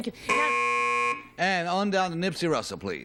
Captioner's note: buzzer